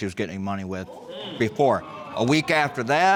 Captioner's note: audience exclaims